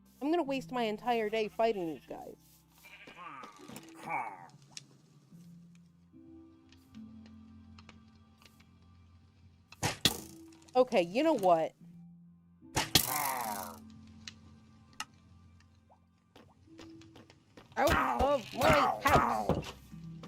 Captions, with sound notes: I'm gonna waste my entire day fighting these guys. [arrow hits] Okay, you know what? Out. Of. My. House!